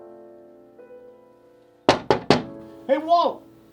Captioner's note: knock on the door